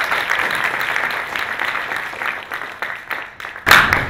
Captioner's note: applause